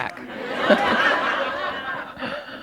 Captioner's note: laughter